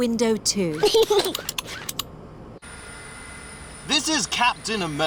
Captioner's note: snorts; giggles